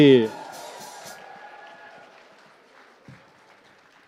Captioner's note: cheers and applause